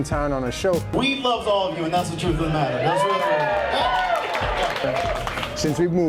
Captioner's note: performer’s monologue and applause